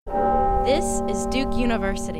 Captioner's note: bell ringing